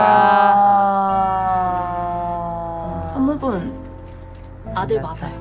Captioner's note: deep sigh